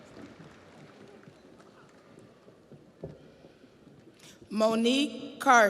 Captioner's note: audience applauds